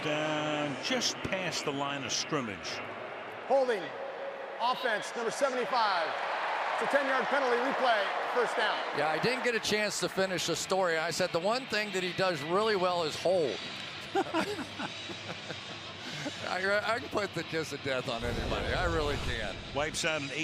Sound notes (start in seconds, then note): 14.0 laughing